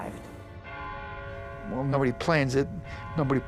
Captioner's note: bell chimes